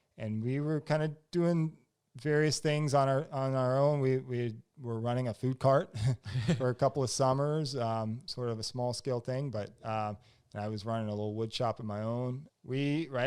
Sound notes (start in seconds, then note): 6.1 laughs